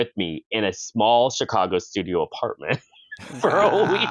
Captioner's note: laughs